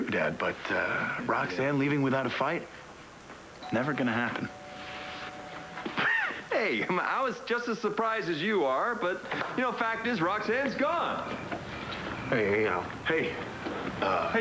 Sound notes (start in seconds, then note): 5.7 doorbell rings